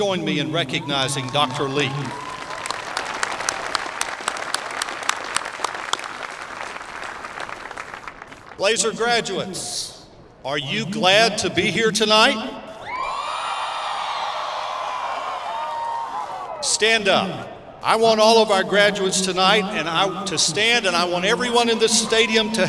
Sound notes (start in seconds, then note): 3.1 applause; 12.8 cheering